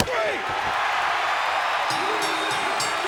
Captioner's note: crowd cheering; bell ringing